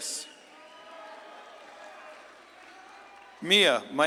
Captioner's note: audience claps and cheers